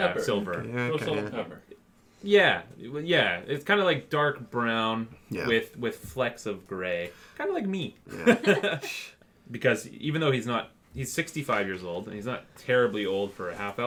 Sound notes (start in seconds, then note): 8.1 laughter